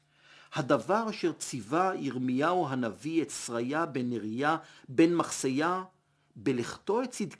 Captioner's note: Hebrew